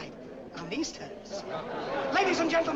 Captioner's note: audience laughs